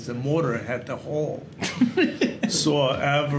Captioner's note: Gary laughs